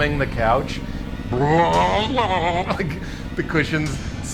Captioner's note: gagging